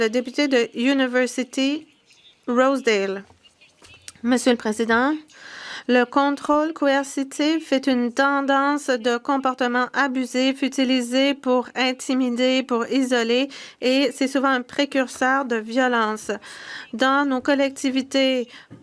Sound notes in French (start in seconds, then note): 5.3 voix de l'interprète